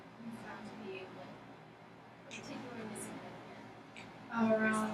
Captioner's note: speaking softly